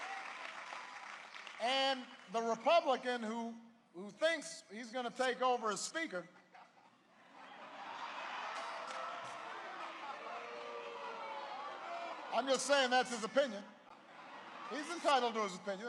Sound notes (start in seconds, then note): 0.0 applause; 7.3 boos; 12.3 laughter